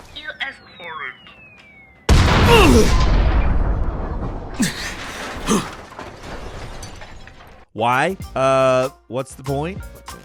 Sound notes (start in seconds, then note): 2.1 explosion blasts; 2.4 man grunting